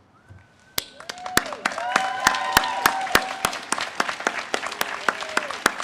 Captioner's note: audience applauds and cheers